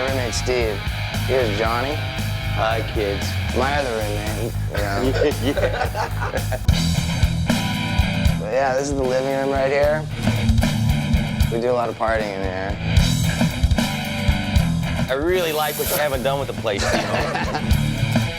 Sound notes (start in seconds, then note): 4.4 men laughing; 6.5 rock music